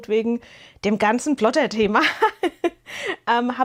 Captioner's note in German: gelächter